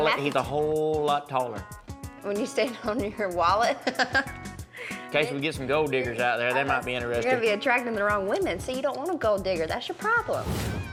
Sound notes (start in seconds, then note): 3.7 laughing